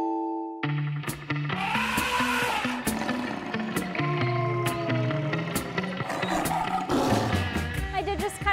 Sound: animal Sound effects

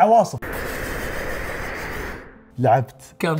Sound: whooshing

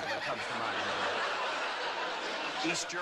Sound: laughter

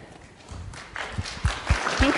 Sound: audience applauding

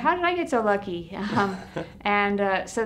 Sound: laugh

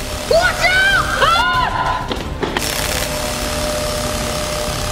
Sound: loud whirring

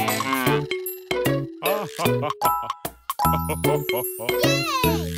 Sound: cow mooing; grandpa chuckling

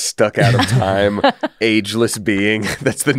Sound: laughs

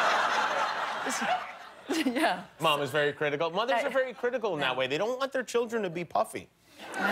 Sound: laughter

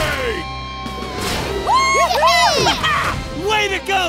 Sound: cheering

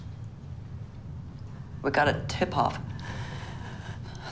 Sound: american accent

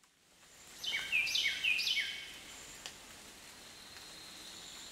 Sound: birds chirping

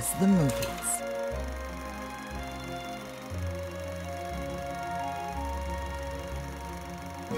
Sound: upbeat music; reel grinding

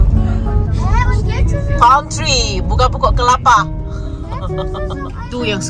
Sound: laugh

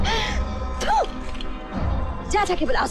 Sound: laughs; spits

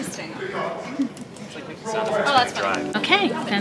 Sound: people chattering

